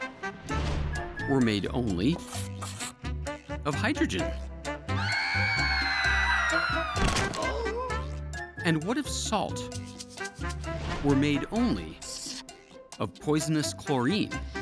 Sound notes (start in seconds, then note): 4.9 terrified screams; 6.9 loud thud, people groaning